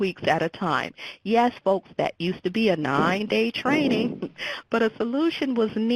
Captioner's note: laughs